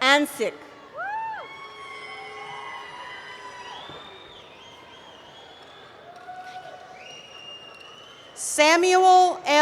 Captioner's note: cheering